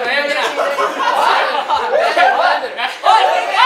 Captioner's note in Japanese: 一同どよめき